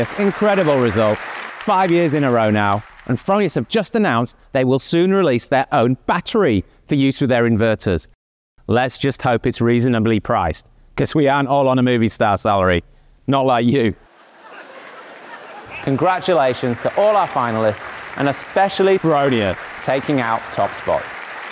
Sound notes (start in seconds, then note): 14.1 audience laughing